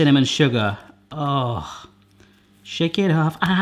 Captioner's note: he sighs